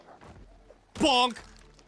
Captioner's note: bonk